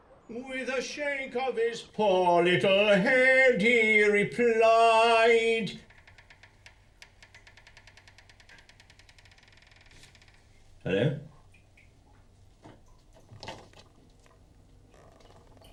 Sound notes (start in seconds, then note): 5.1 creaking; 11.1 water dripping